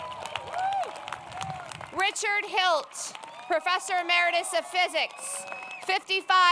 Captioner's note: applause